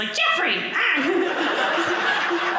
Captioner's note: audience laughing